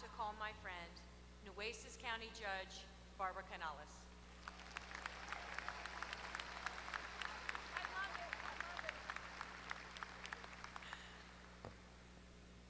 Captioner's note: applause